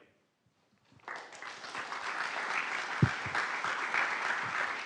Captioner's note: applause